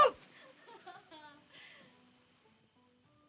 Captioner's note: Messua laughs